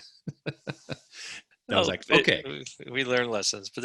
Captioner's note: chuckling